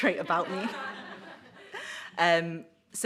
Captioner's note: audience laughs